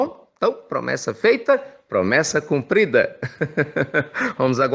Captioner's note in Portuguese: risos